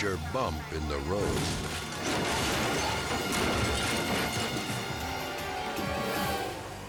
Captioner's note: sirens wailing; car crashing